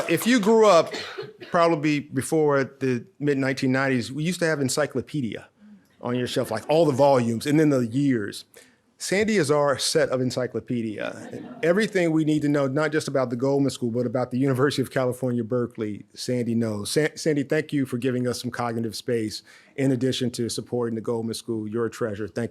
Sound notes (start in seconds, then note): 11.0 audience laughs